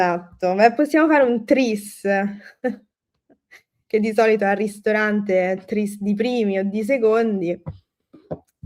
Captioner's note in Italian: risate